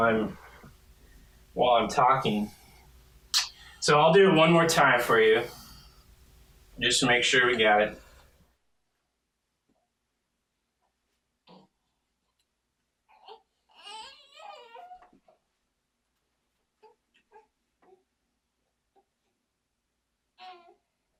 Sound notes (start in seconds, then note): 3.3 kiss; 8.5 silent; 13.1 baby fussing; 18.0 silent